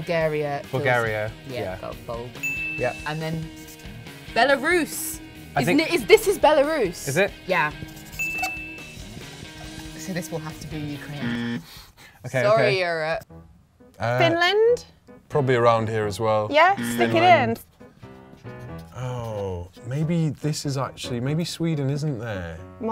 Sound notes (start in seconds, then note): 2.4 bell dings; 8.2 bell dings; 11.2 alarm; 16.7 alarm